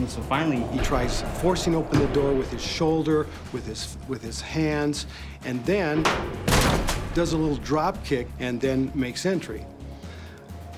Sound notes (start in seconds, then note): 6.0 door crashing open; 6.0 kick thudding on door